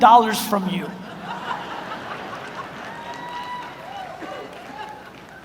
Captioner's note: audience laughs